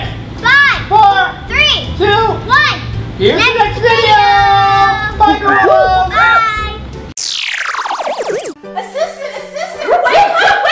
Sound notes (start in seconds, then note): 7.2 Pacman sound